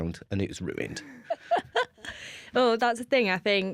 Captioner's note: laughter